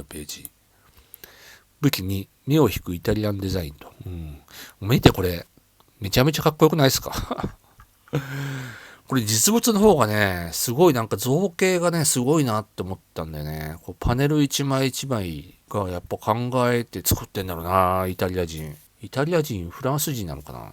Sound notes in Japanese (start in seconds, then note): 7.1 笑い; 8.1 息をのむ音